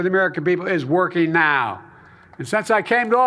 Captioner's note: applause